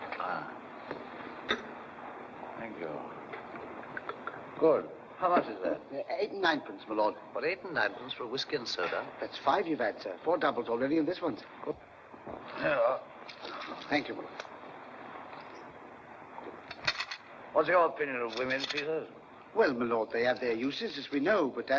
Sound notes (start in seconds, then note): 1.4 glass clanks down; 16.8 coins clatter on tray